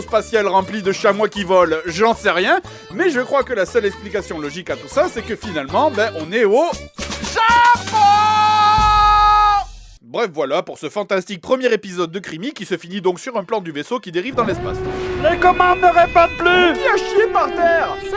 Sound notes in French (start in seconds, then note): 7.0 hurlé; 16.3 alarme